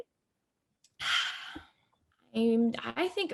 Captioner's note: Chastity heavy sighs